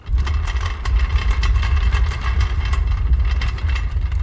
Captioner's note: drawer rolling